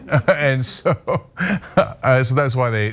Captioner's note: laugh